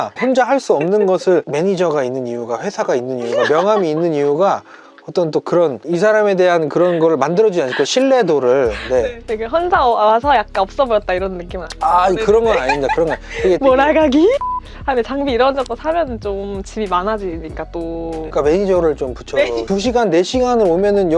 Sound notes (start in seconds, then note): 14.4 beep